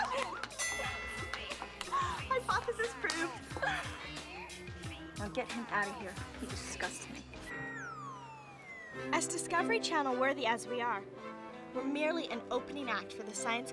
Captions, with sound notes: AN ELEVEN! ( bell rings ) HYPOTHESIS PROVED. NOW GET HIM OUT OF HERE. HE DISGUSTMES . AS DISCOVERY CHANNEL-WTHORY AS WE ARE WEE 'RREMELY AN OPENINACG T